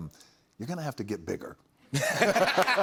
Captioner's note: laughter